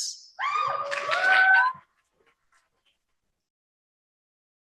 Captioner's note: cheering